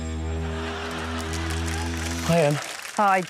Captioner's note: laughter and applause